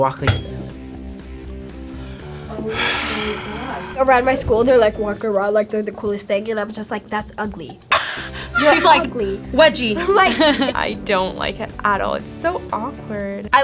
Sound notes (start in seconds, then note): 0.4 smooth uptempo music; 2.7 exhales sharply; 7.9 laughs